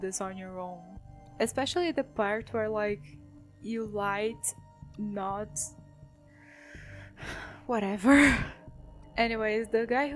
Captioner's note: sigh